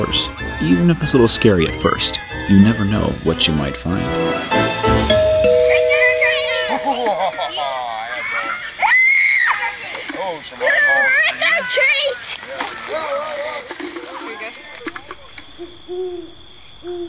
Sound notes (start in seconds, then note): 5.1 ding-Dong; 6.8 evil Laugh; 8.1 child Screams